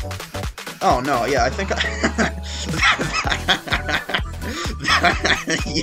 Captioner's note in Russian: смеется